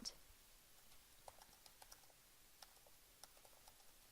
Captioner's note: typing